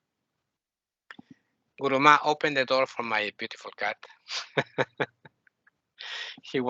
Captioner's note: laughing